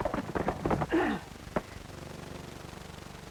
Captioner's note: grunt